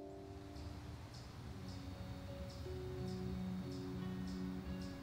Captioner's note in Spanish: Aves trinando